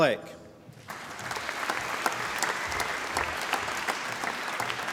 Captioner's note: applause